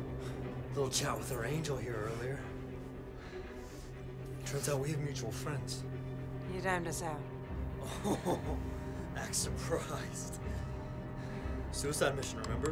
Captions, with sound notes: A little chat with our angel here earlier. Turns out we have mutual friends. - You named us out. (James laughs) - Act surprised. Suicide mission, remember?